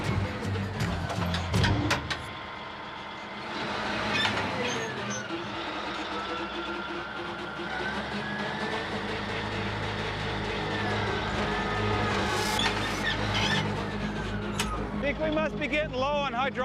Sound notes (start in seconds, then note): 0.1 squeaking sound; 2.4 motor slowing, squeaking